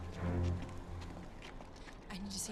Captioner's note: footstep